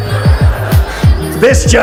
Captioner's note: audience laughs